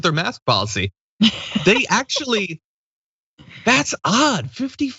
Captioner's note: laugh